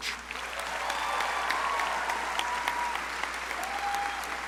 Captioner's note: crowd applauding